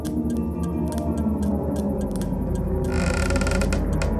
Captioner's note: creaking